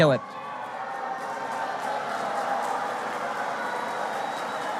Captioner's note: audience boos